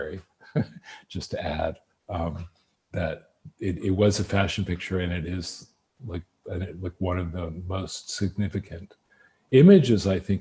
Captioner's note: laughs